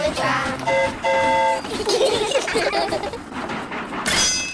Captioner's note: train horn toots; all giggle